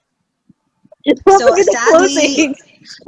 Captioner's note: laughing